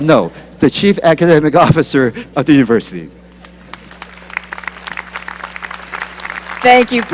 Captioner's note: applause